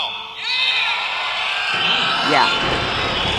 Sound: clapping and cheering

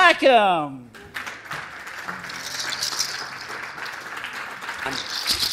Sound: audience clapping

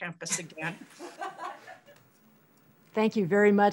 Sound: laughter

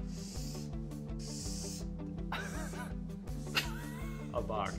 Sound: giggling; marker scribbling

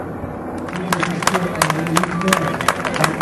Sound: clapping

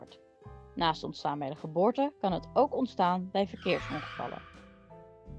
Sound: traffic

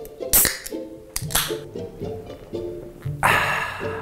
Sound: soda can pops

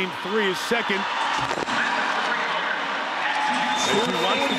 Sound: audience whistling

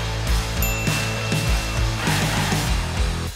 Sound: bell dinging

